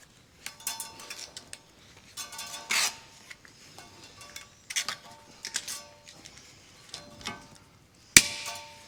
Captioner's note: metal clanking